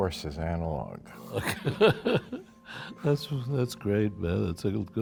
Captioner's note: laughs